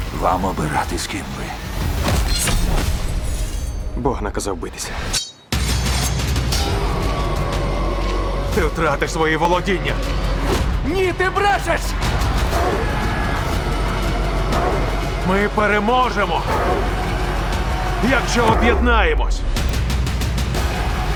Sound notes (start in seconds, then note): 5.5 dramatic music continues; 12.5 men yelling; 16.4 men grunt; 19.5 dramatic music continues